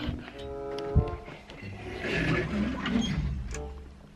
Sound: door creaks

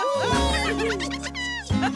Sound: laughing

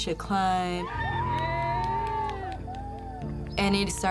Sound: friends cheering and clapping

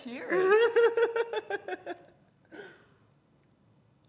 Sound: laughing

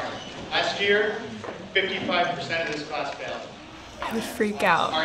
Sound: students gasp

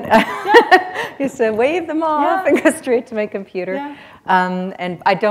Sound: laughter

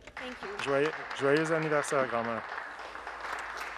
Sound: speaking Alternate Language; some Applause

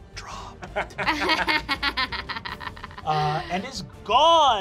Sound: laughing

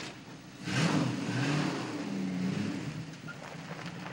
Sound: engine revs

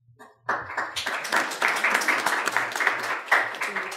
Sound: audience applauds

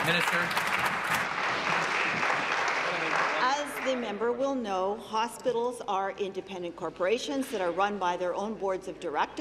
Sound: applause

